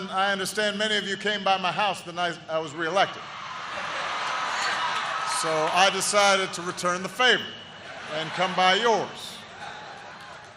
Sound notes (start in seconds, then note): 3.5 laughter